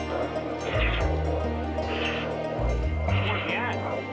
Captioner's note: heartbeats